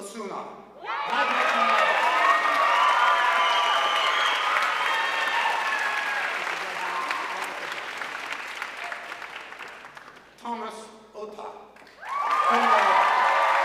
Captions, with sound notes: Jacqueline Osuna, magna cum laude. (audience cheering and applauding) Thomas Ota, cum laude.